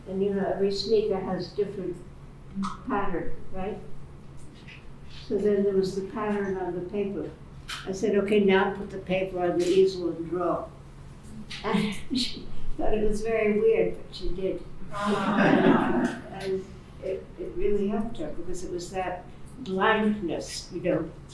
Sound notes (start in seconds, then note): 14.9 laughing